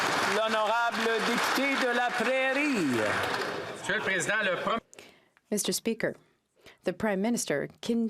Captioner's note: applause